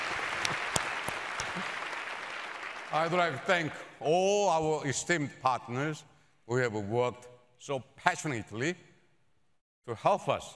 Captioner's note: applause